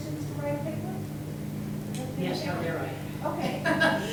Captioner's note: laughs